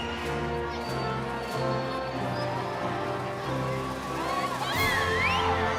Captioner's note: cheering continues; inspirational music